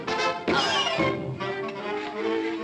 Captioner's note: dramatic music; fist thuds; suspenseful music